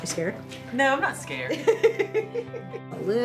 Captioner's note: laughing